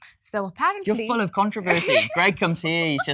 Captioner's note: laughs